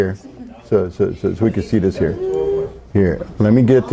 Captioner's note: students chattering